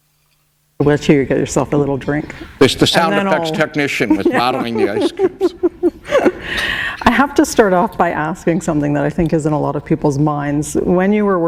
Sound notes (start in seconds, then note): 5.8 laughter